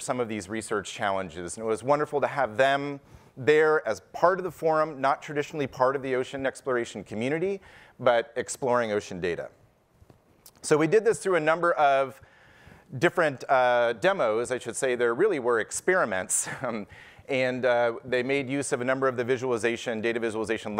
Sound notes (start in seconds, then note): none